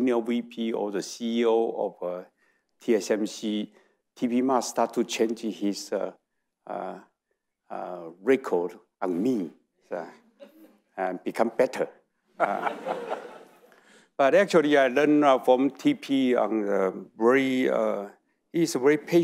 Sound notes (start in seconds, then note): 10.4 audience chuckling; 12.4 audience laughing